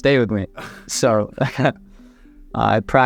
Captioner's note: chuckles